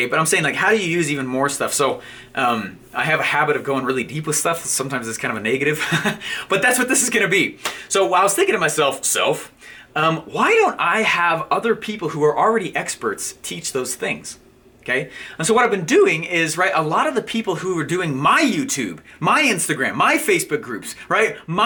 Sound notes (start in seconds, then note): 6.0 laughing